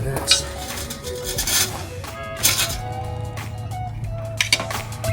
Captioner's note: metal scraping